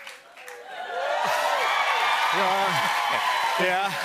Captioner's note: cheers and applause